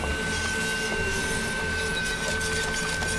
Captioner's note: high-pitched sawing